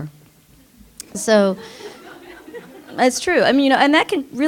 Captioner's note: laughter